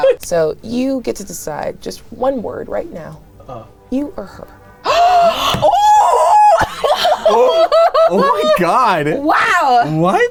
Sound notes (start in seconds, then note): 4.9 gasps